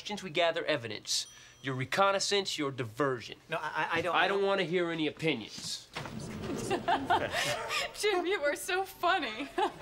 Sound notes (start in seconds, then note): 6.5 giggling